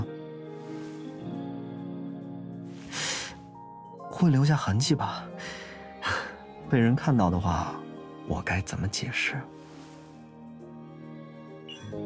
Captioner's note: hisses